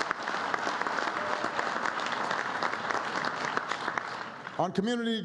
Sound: applause

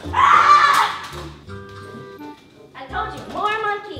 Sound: screams

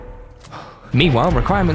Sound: sad sigh

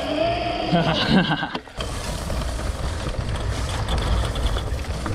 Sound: laughing

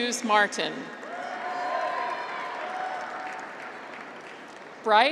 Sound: graduates cheer

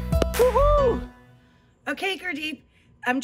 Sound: exclaims

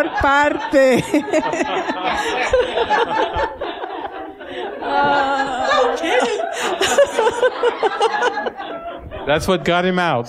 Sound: laughter

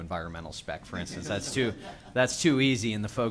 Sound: laughter

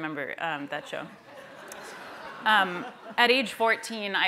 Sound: laughter

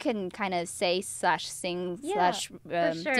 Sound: speaks in Chinese with pinyin

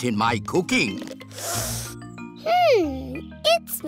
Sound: sniffs

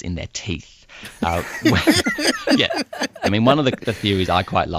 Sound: laughs

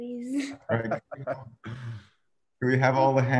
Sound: laughs

